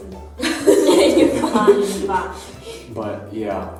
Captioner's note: laughter